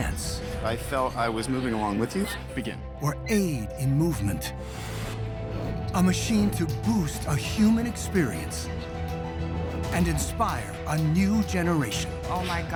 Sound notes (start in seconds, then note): none